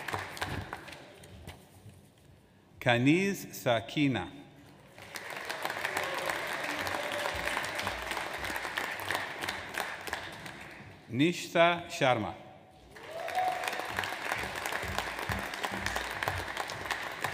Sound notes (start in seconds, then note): 4.8 audience applauds; 12.9 audience applauds